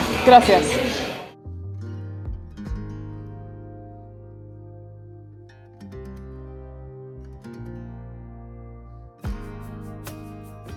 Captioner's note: Spanish